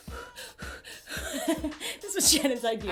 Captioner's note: panting nervously